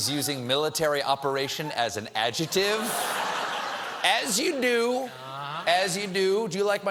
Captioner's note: laughter